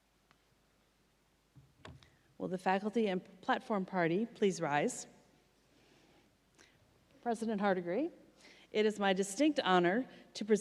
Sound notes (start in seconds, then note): none